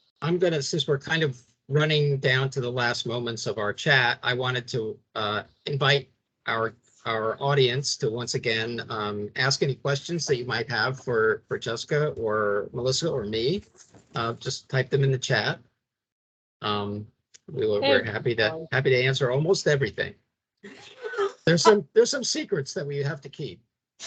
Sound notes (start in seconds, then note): 20.7 laughing